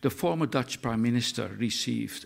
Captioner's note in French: néerlandais